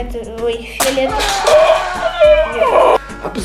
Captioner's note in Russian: крик умирающего человека